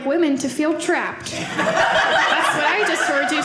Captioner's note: audience laughing